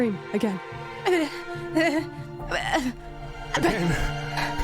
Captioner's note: panting